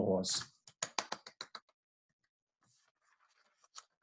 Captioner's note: claps